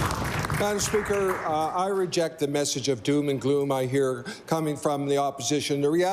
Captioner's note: applause